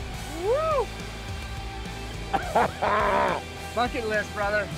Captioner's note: cheers